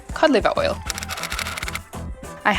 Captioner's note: typewriter style clicking